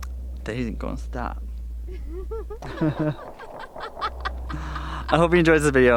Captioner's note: fireworks popping